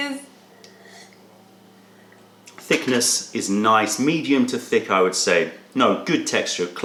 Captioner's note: sips tea